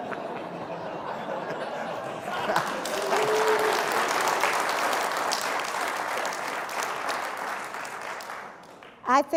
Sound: applause

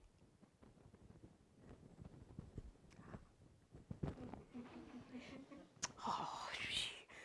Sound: laugh

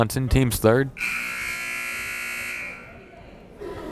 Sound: buzzer

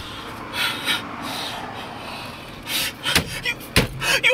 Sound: door slams

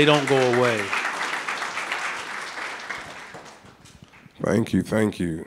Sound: audience clapping

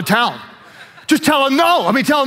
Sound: audience laughs

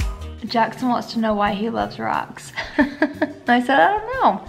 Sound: chuckles

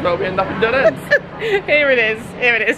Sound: laughing

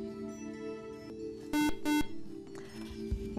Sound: buzzer

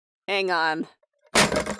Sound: phone hung up

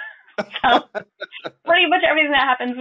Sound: laughing

